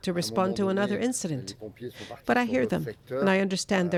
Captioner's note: speaking french